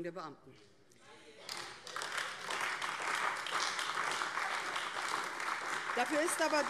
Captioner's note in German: Beifall AfD